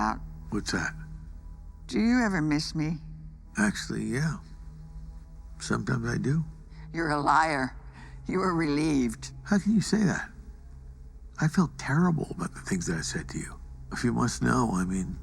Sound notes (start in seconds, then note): none